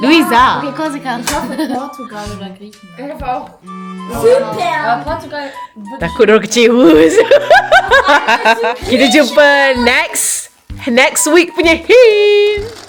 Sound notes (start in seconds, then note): 4.2 speaking German; 7.0 laugh